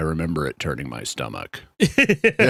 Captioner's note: laughing